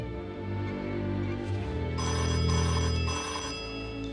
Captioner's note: phone ringing